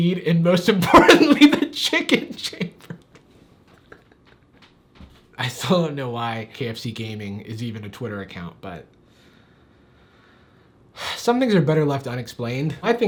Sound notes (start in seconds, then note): 3.1 laughs